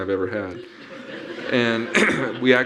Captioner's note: audience laughing